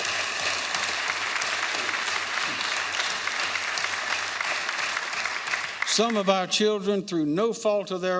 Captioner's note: applause